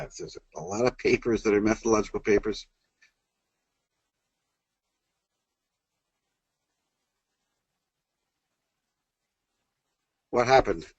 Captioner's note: pause